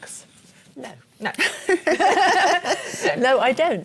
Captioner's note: laughter